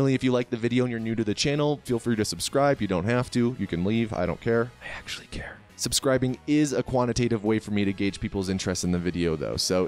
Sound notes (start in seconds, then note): 4.9 whispering